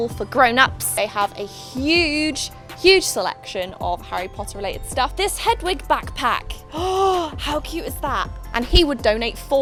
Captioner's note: gasps